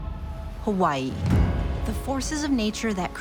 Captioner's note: wind whipping